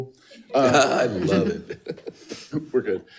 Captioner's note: laughs